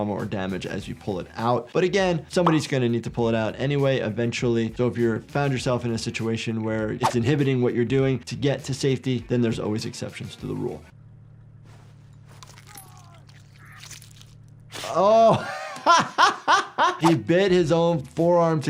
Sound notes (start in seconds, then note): 12.4 player character crunches and screams; 14.8 laughs